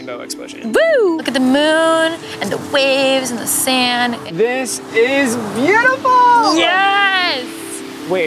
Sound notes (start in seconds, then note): 0.7 whooping